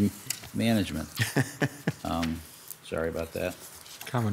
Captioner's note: laughs